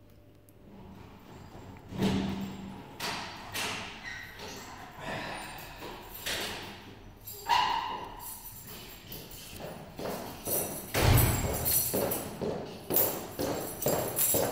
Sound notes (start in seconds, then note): 0.7 steel clunks; 5.0 man grunts; 9.3 footsteps; 9.3 keys jangle; 10.9 door slams